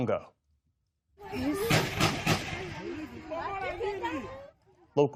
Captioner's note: gunshots